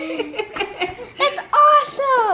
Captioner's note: laughs